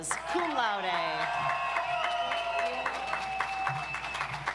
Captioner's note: audience applauds